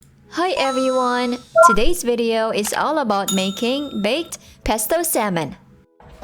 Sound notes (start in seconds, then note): 0.6 computer chimes, mouse clicks